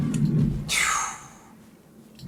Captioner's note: exhaling